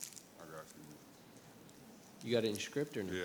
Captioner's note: speaks faintly